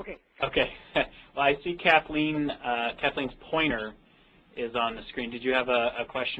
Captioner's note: laughs